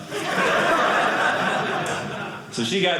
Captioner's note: audience laughing